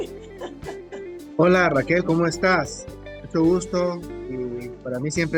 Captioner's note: laughs